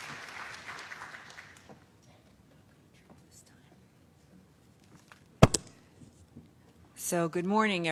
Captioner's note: applause